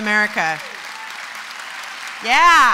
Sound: applause

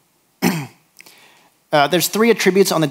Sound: clears throat

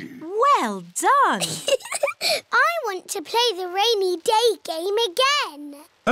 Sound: laughs

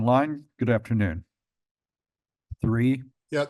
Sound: pause

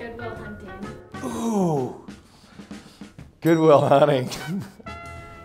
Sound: laughs

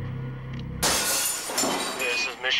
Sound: glass breaking

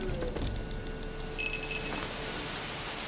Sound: rings bell

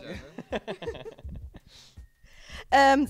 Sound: laughing

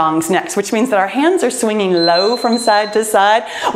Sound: timer beeps

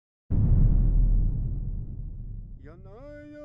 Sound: boom

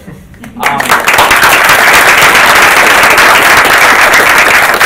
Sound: group applauding

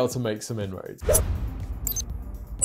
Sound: graphic whooshes; graphic beeps

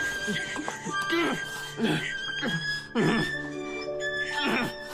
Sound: man grunts with effort

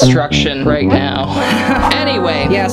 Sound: sighing

